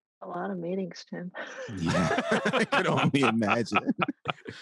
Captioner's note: all laugh